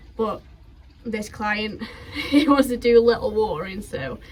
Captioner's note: laughs